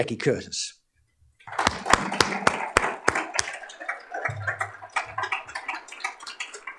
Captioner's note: applause